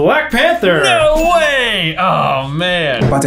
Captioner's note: bell dings